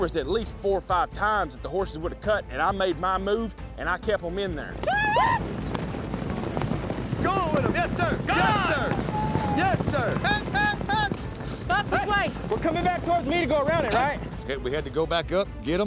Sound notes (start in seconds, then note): 5.2 shouting